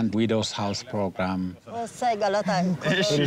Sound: speaking foreign language

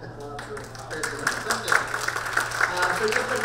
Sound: audience clapping

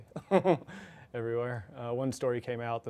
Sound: chuckles

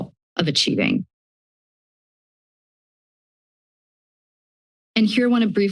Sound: silence

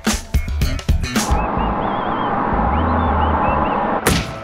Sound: whistling

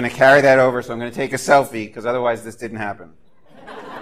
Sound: laughter

